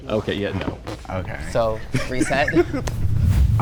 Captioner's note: laughs